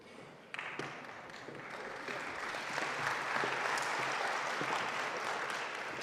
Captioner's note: audience applauding